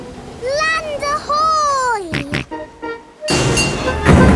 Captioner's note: snorts